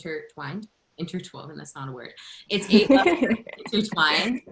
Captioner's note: laughter